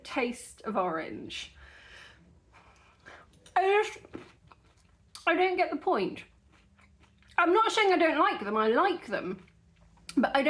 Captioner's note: munching